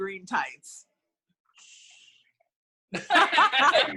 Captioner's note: laughter